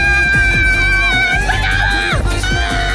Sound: shriek

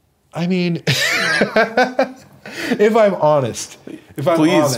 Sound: laughs

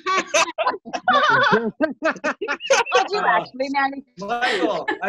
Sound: laughter

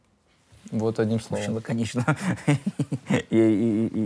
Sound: laughs

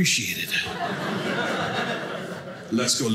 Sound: audience laughing

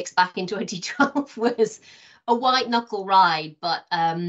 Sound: laughing

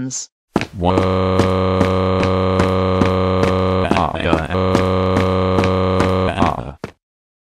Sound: crying

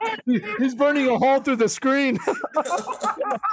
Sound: laughter

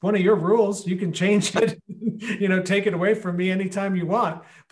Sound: laughing

